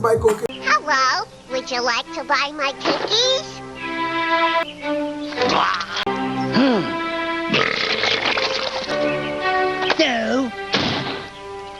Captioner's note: monster slams door